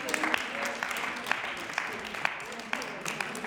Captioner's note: applause